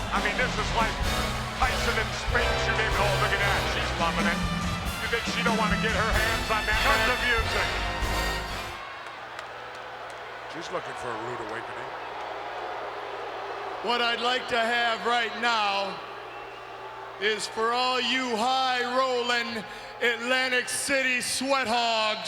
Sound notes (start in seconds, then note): 9.2 crowd cheering